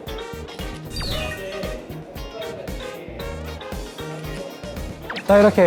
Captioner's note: honk Honk